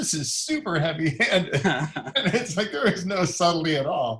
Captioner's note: laughs